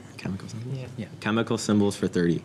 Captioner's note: whispers